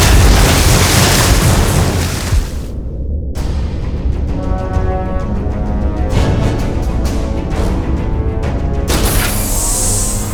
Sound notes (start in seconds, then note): 2.0 crash